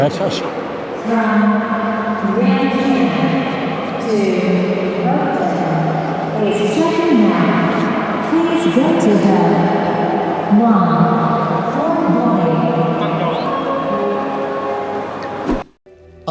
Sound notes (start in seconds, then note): 2.6 tannoy